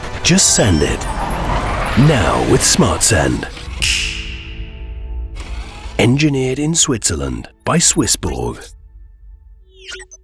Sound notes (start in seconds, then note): 3.7 finger snaps